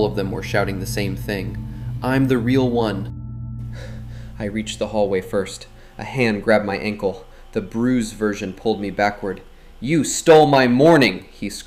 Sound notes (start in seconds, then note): 2.9 breathing heavily